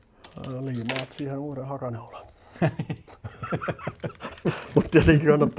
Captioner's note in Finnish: naurua